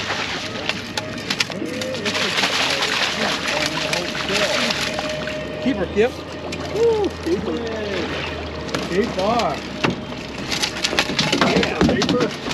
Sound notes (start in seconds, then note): 0.2 laughing; 2.3 fish splashing; 2.8 horn blaring; 10.3 fish thrashing